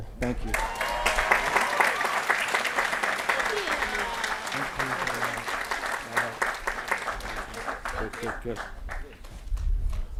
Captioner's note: applause & Cheering